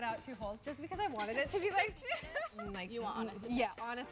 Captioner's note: laughs